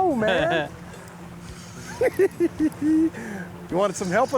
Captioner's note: giggling